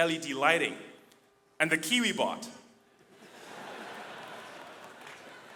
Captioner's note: audience laughing